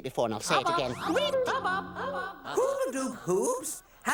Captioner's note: echoing